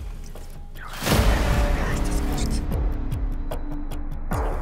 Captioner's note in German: Flüsternd